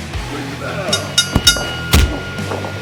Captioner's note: bell rings three times